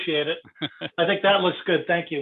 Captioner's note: laughs